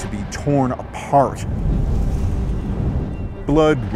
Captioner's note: thunder rumbling